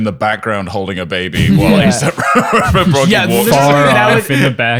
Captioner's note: laughing